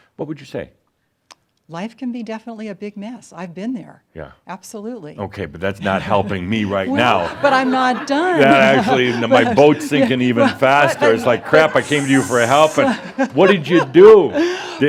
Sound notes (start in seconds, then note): 7.2 laughter; 8.4 she chuckles